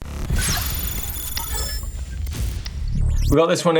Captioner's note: logo whooshes